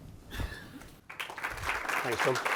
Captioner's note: applause